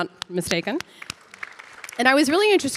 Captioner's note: audience applauding